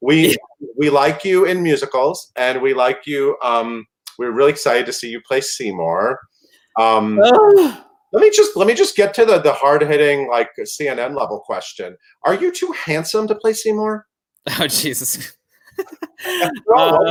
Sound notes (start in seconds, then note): 7.2 high-pitched sigh; 15.6 chuckle